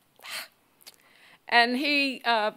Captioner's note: sighs